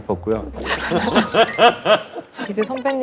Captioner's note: laughing